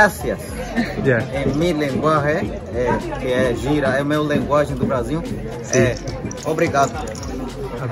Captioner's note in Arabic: بالإسبانية والإنجليزية